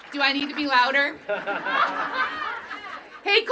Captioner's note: applause